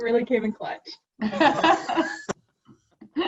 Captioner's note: laughter